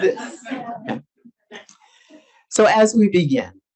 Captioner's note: audience laughs